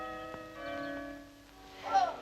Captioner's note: bells tolling; girls groaning